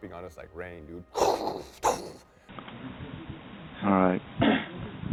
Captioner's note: imitating explosions booming